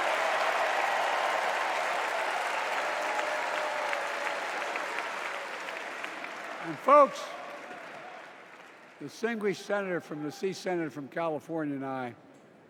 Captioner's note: cheers and applause